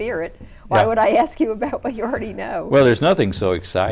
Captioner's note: laughs